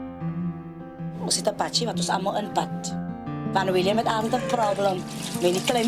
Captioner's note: woman speaking foreign language